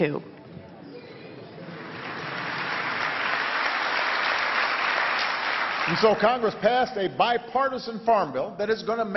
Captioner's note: applause